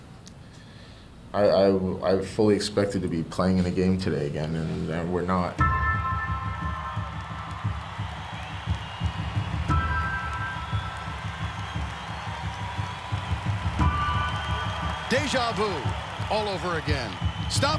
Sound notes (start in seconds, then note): 6.6 crowd cheering; 6.6 pensive music